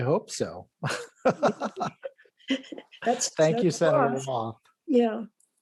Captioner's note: laughs